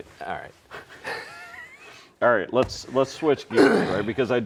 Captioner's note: laughing